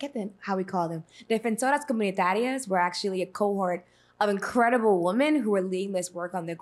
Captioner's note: speaking spanish